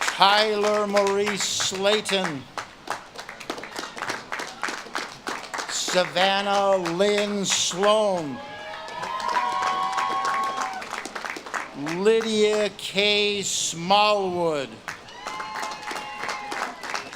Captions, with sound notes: Tyler Maurice Slayton. (audience claps and cheers) Savannah Lynn Sloane. (audience claps and cheers) Lydia K. Smallwood. (audience claps and cheers)